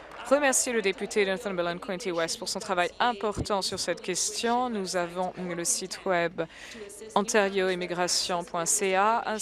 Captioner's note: applause